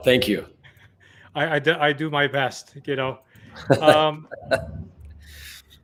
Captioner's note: laughs